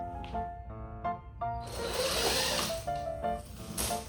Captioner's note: drill noise